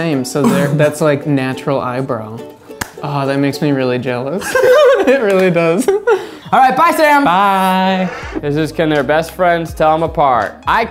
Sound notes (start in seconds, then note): 4.4 laughing